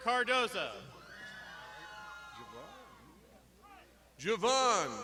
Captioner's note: crowd shouting